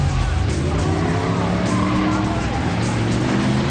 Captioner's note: car engine roars